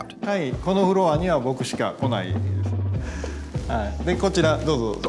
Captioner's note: speaking Japanese